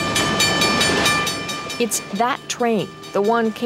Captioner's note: train bell tolls